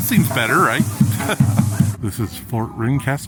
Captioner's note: chuckles